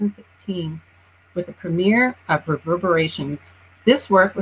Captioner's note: murmuring